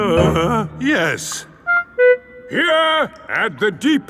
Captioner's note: groans